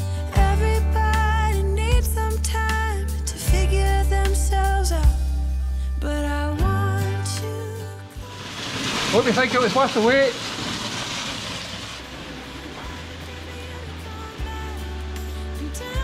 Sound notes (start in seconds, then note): 7.9 water falling; 12.0 soft music continues